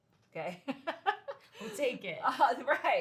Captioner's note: laughs